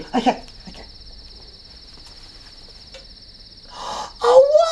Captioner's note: sounds of night life can be heard